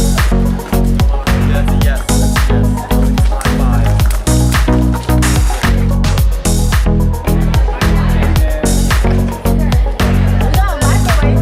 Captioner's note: background chatter